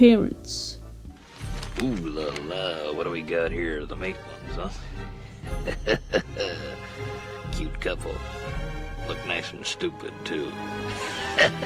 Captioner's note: chuckles